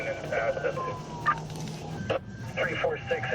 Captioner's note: sirens wailing